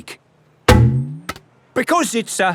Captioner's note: thunks